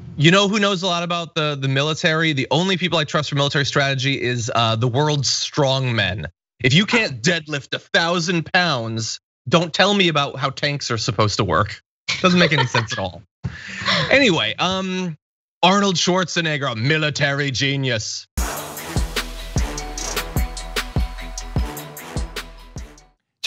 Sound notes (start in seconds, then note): 12.2 laugh